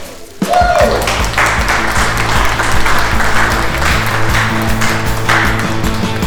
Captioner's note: applause